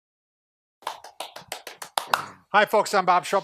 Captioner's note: clapping